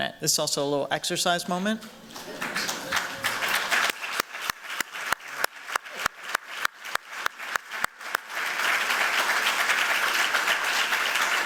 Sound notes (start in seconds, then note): 2.1 applause